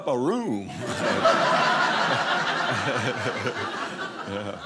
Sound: audience laughing

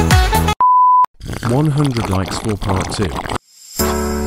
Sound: awkward slurping

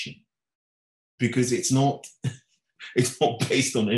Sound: chuckling

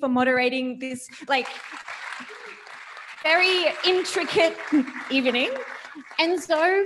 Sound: audience applauding

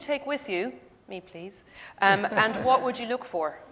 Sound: audience laughs

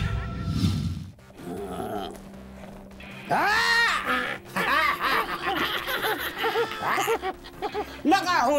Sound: laughing

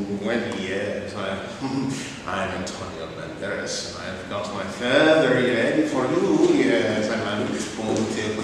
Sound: bad Spanish accent; laughs seductively

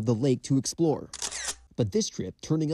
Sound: camera shutter sound

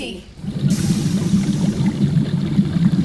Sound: burble burble burble

